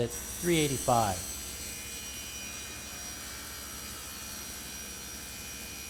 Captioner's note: sound of saw blade cutting material